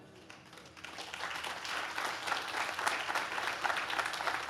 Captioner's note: audience claps